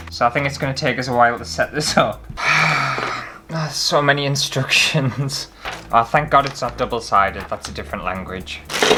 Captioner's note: sigh